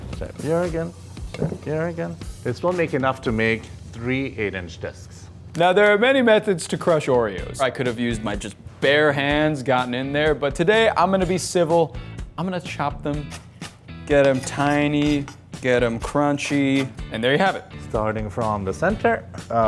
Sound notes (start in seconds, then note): 13.3 Oreos crunching